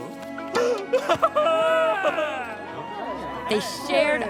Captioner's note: crying joyfully